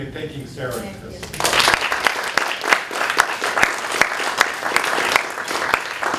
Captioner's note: applause